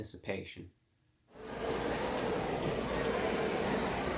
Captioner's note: crowd chatting